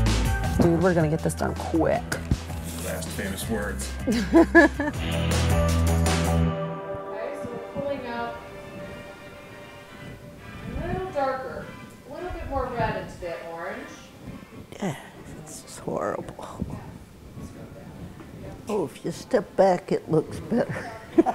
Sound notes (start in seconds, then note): 4.0 laughs; 5.6 upbeat music